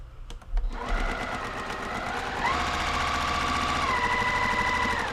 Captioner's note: sewing machine whirring